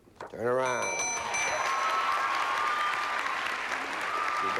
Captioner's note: cheers and applause